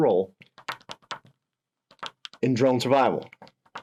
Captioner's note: pen tapping